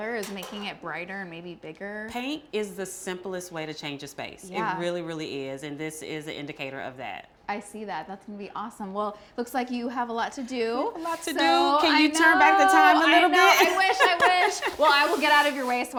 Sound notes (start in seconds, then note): 11.1 laughs